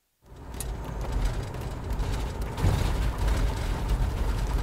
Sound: car rattling

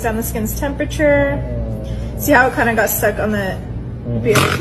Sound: man snorts

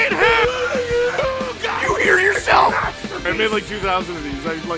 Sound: Harry potter screaming; screaming

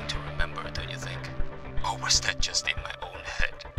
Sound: laughs

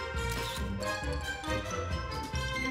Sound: camera shutter snaps

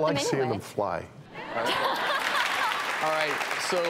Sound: laughter

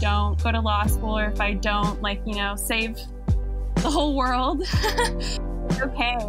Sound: chuckles

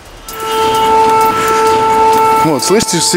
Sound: troubling music; siren

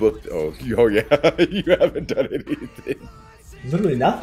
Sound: laugh

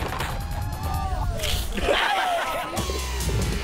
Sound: groans

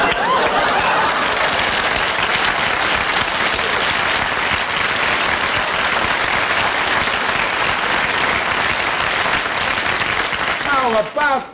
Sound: audience Laughing; audience Applauding

